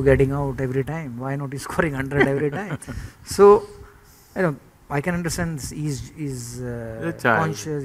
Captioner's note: laughter